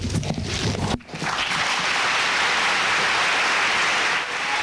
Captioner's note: applause